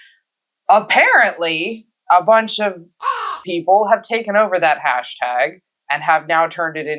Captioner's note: caw